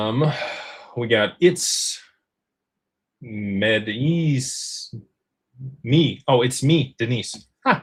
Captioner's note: sighs